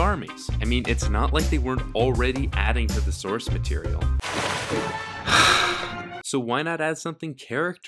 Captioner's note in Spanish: suspiro